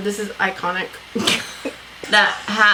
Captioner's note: both laugh